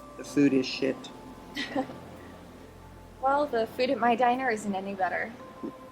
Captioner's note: chuckles